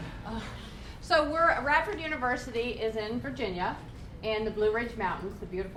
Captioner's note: laughs